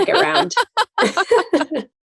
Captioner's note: laughing